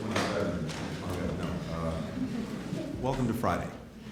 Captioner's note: laughter